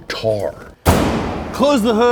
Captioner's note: bang